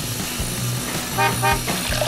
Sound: horn honking; water pouring

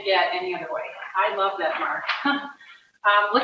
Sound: laughs

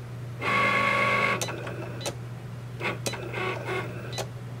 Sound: Cricut draws

